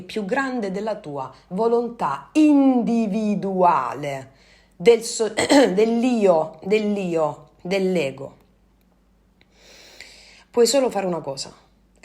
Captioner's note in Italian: schiarire la voce